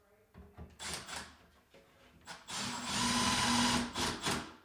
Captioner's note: drill whirring